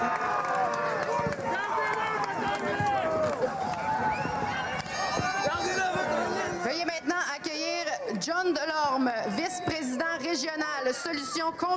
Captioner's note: cheers and Applause